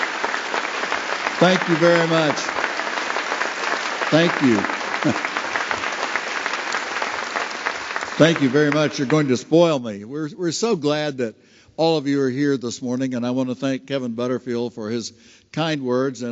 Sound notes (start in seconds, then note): 0.0 applause; 4.0 applause